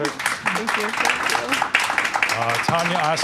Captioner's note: applause